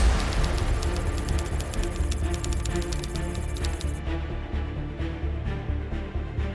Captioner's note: dramatic music; keyboard clacking